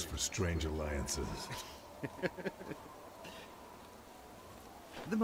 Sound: laughs

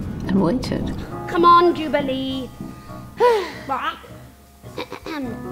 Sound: sigh

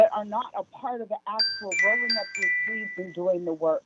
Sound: chime

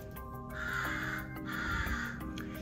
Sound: Leo caws

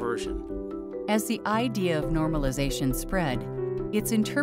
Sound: voiceover

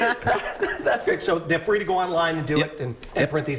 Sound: laughter

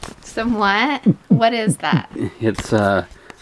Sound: mimics heartbeat

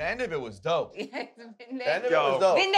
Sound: laughter

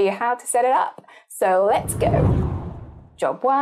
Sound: wind blows

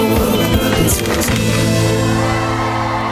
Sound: rattling; applause

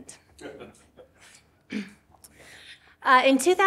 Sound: attendee chuckles

